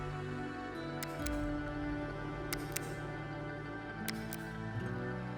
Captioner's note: shutter clicking